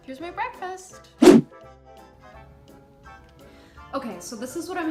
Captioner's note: whoosh